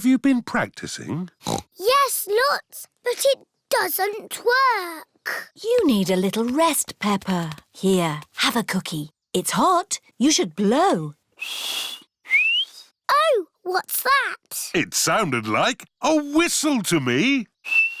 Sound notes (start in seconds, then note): 1.4 snorts; 11.4 whistles